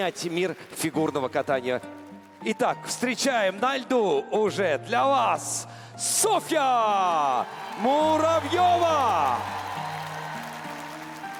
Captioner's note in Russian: ликование